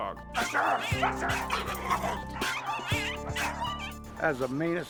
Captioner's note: aggressive barking